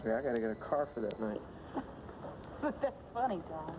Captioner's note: telephone rings